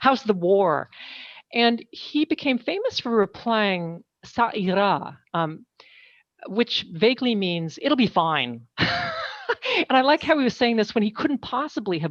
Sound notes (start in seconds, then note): 4.7 speaking french